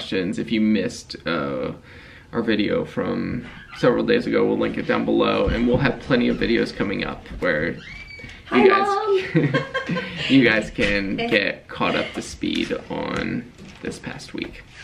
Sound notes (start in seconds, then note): 9.1 chuckling